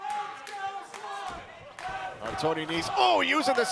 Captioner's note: crowd cheering